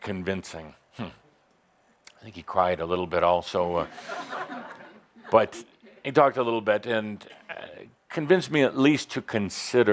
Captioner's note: some laughter